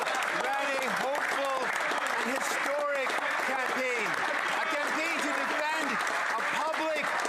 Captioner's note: some Applause